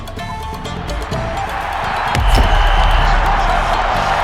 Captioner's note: crowd cheering